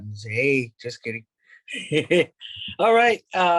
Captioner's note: laughs